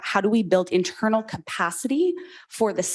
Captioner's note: none